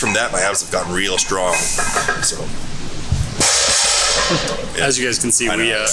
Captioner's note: loud metal drops